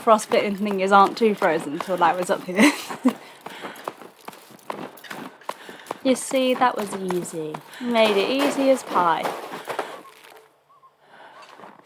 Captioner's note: laughs